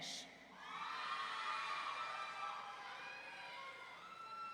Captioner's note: audience cheering